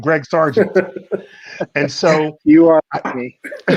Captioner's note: laughing